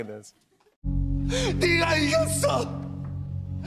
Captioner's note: crying